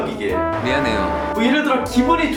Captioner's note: robot voice